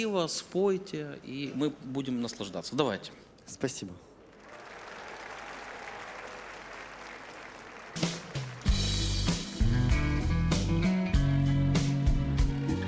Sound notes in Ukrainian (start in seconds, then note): 7.7 оплески